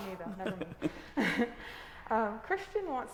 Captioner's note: group laughing